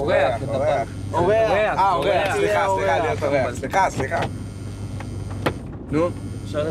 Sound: phone buzzing

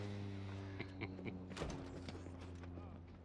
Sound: laughs

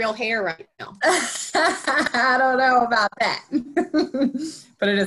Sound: laughs

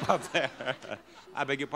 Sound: audience laughs

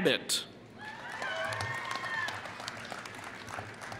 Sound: applause

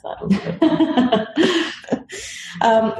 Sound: laugh

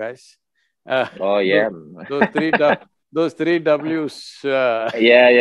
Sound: laughs

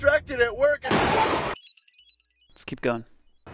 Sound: objects crashing

